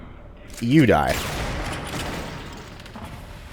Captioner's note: bam